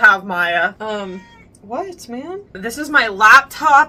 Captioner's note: meow!